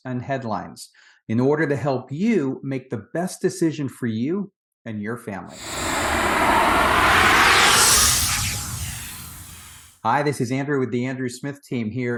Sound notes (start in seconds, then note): 5.5 air whooshing